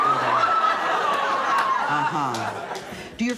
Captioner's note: audience laughs